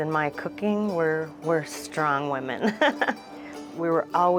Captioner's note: laughs